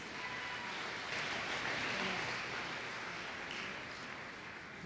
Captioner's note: applause